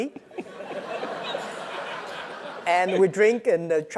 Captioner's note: laugh